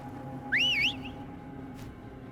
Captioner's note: whistle